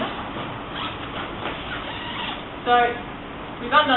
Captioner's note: zipper whooshing